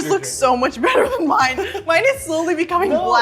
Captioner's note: laughing